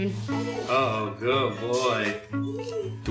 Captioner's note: dog whines